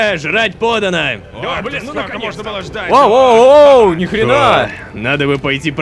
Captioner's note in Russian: Толпа голодных голосов